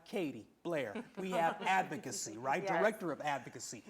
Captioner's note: laughter